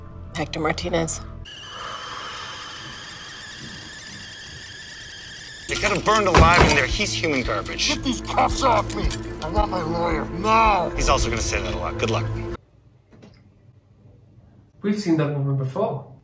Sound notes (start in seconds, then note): 1.4 tea whistling